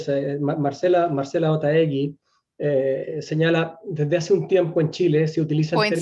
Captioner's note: speaking in foreign language